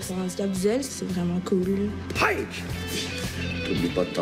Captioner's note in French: cri de karaté